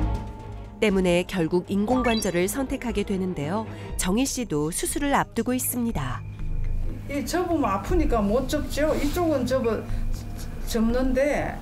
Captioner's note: voiceover